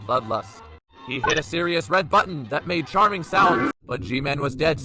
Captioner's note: windows startup sound